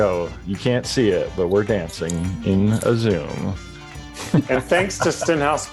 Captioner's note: laughs